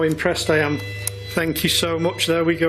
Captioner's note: machine beeping